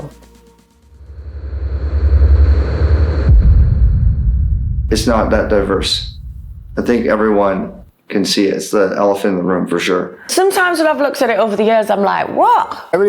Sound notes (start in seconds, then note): 0.8 dramatic noise